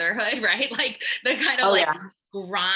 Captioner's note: laughing